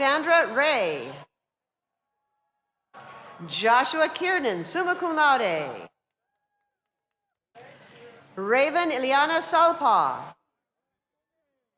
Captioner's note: cheers and applause